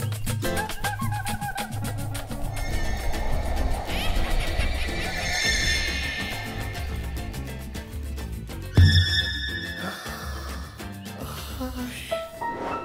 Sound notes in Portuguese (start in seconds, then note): 0.0 samba tocando; 3.8 risada maligna; 9.8 suspiro de surpresa; 12.0 música de suspense